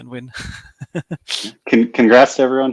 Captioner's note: laughing